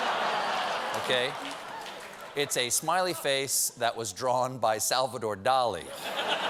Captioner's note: laughter